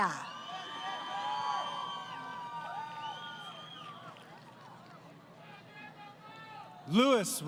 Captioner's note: crowd Cheering